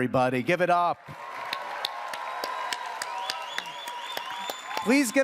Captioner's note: audience cheers, applauds